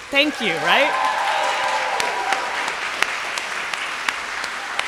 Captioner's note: audience applauding